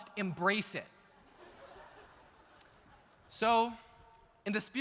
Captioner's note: audience laughs